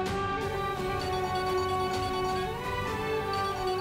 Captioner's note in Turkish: Telefon çalıyor